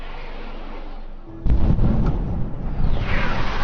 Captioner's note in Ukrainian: вибух